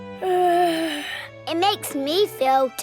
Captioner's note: yawns